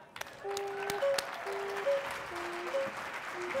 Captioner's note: audience clapping and cheering; flute playing